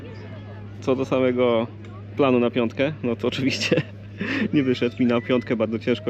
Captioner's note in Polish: śmiech